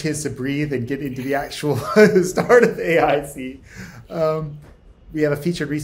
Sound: laughs

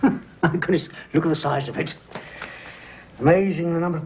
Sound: chuckles

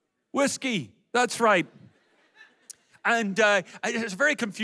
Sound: audience laughs

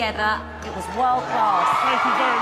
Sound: cheering

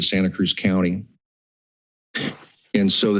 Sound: pause

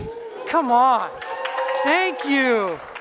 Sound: applause and cheers

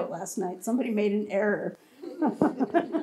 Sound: laughs

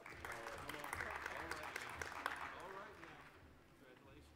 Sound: applause

